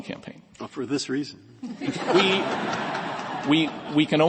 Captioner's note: laughter